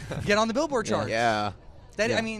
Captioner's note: giggles in the background